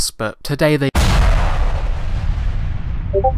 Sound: impact sound; Discord notification

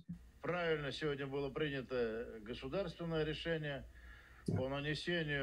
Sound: speaking in Russian

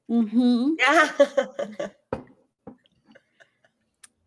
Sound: laughs

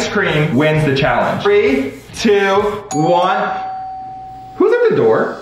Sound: doorbell rings

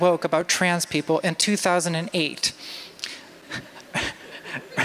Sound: laughter

